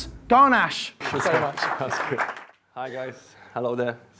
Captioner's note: audience clapping